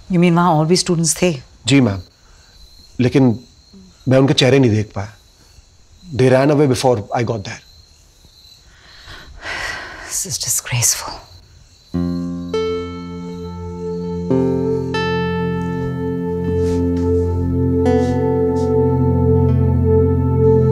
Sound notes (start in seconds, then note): 8.9 Maya sighs